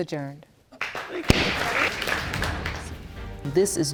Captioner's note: audience applauds